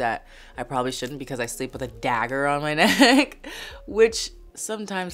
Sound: laughs

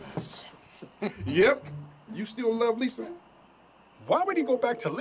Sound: chuckles

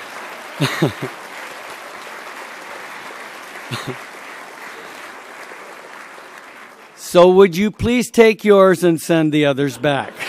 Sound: applause; laughs

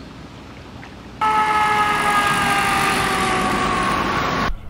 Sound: sirens

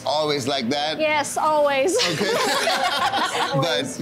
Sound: laughing

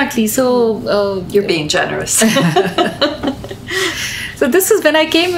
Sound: both laugh

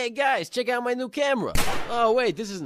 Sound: bang!

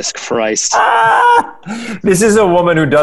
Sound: laughing

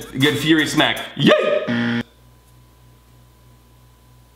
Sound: yelling

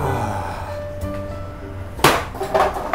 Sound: sigh; briefcase slams on table

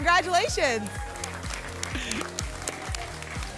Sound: applause and cheering cont

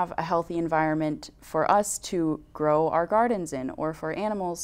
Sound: none

